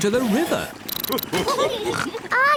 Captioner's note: all laugh